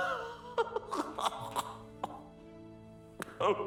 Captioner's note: laughing